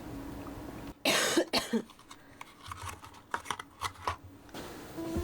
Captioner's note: cough cough